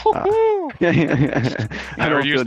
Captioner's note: laughs